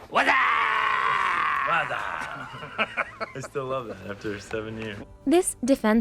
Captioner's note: laughing